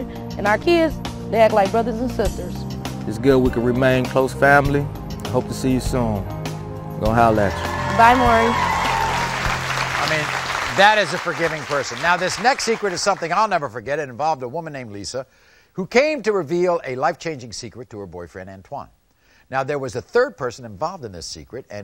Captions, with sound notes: And our kids, they act like brothers and sisters. - It's good we can remain close family, hope to see you soon, gonna holler at you. - Bye Maury. (audience applauding) (cheering) - I mean, that is a forgiving person. Now this next secret is something I'll never forget, and it involved a woman named Lisa who came to reveal a life changing secret to her boyfriend, Antwon. Now there was a third person involved in this secret,